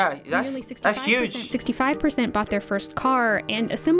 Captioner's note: voice-over